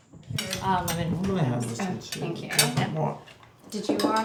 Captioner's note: group chatting